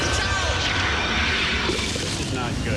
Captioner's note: more Screaming